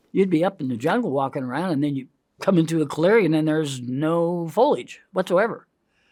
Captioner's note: none